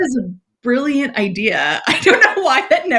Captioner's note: laughs